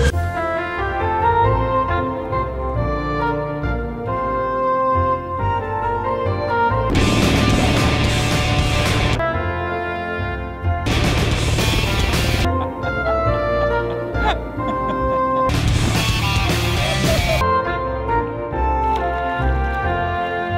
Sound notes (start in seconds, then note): 0.3 melodic music; 6.8 heavy metal music; 9.4 melodic music; 10.8 heavy metal music; 11.7 melodic music; 12.2 laughing; 15.4 heavy metal music; 17.7 melodic music